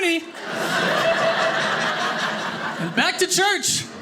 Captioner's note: audience laughing